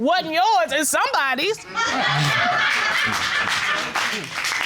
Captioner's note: audience laughing, applauding